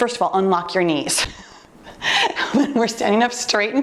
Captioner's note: laughing